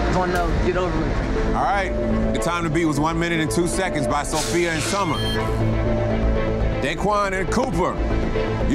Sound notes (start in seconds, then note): 4.7 digital beeping